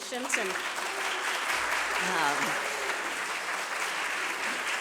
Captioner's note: applause